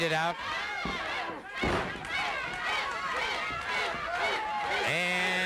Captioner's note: crowd chanting